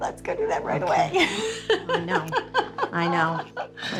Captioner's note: laughs